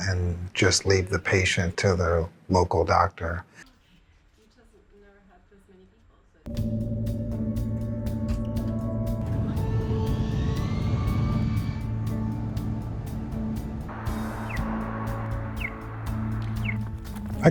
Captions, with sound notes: and just leave the patient to the local doctor. (upbeat music) (airplane engine revving) (cars engine revving) (bird chirping)